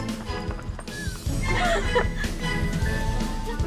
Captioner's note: giggles